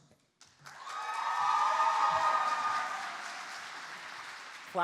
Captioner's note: applause